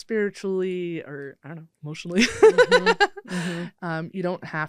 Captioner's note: laughs